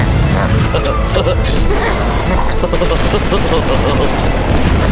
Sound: guffaws; snickers; explosions

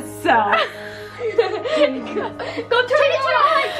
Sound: laughs

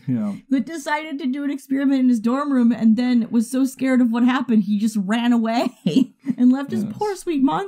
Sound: chuckles; laughs

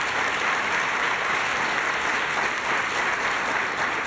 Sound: applause

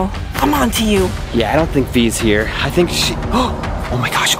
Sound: gasps

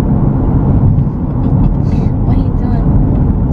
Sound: laughs

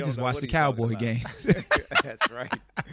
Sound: laughs

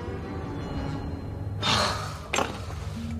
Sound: gasps

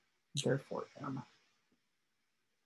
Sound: silence

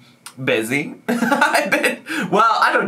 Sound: laughs

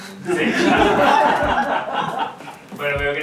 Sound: laughs

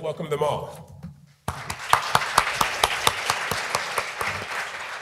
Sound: audience applauding

